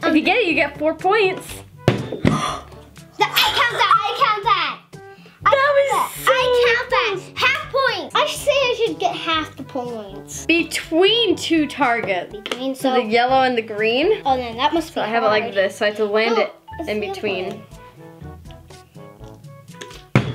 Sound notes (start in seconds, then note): 1.8 bottle landing; 2.2 gasping